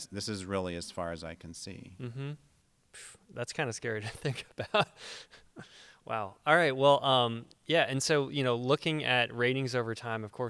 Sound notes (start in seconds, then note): 4.1 chuckles